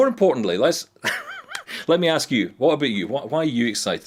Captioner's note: laughs